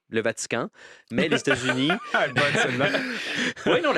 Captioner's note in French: rires